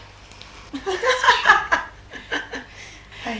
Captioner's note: gail laughs